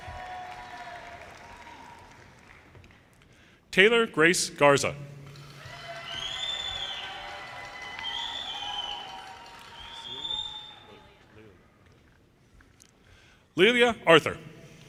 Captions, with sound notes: (audience applauds) Taylor Grace Garza, (audience cheers) Lelia Arthur,